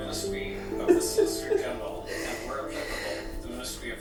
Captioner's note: crying